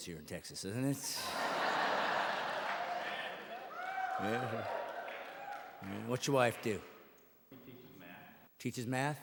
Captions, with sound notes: Yeah, baseball or football? That's kind of religions here in Texas isn't it? [audience laughing and cheering]